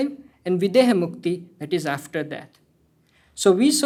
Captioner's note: hindi